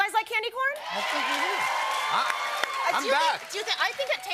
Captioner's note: cheers and applause